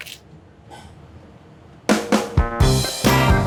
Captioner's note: vegetables crunching; upbeat music